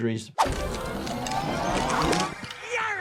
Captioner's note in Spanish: pirata zumbando